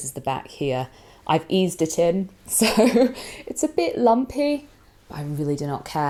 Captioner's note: chuckles